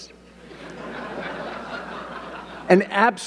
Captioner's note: audience laughing